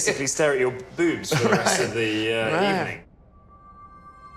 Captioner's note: laughs